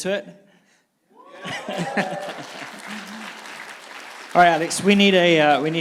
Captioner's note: audience applauding and cheering